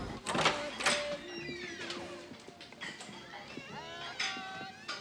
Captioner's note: door opens and closes